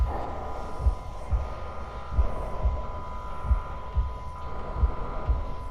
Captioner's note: faint alarm blaring